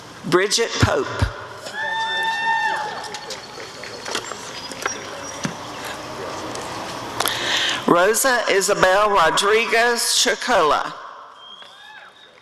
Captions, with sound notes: Bridgett Pope [applause and cheering] Rosa Isabel Rodriguez Chagolla [audience cheering]